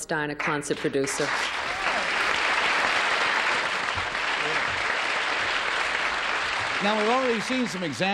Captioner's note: applause